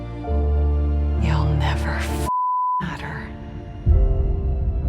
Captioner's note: beeping